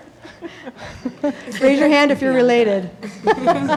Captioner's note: laughing